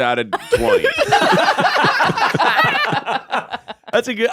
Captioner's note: all laughing